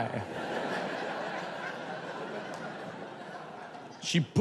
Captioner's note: audience laughs